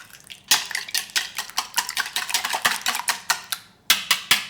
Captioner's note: egg beater whisking; egg beater thudding